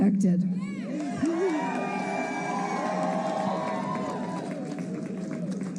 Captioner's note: cheers and applause